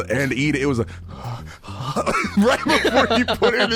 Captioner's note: heavy breathing